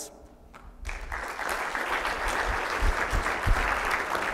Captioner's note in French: applaudissements